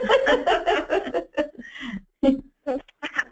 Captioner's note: laughs